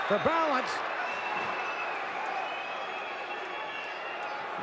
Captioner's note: audience cheering